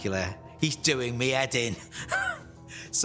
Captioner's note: laughs